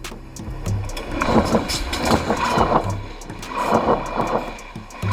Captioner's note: train wheels grinding